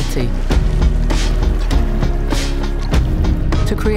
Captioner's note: sloshing